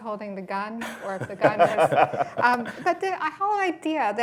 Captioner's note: laughter